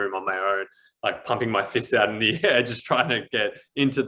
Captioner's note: chuckles